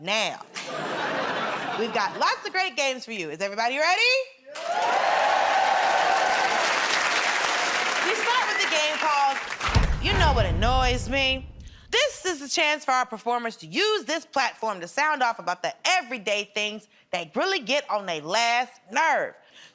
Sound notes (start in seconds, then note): 0.5 laughter; 4.5 cheers and applause